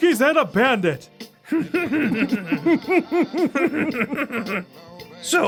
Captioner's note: Ed and Eddy giggling